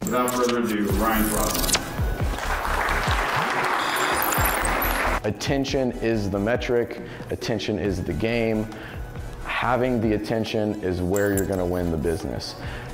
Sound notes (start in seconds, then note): 2.2 applause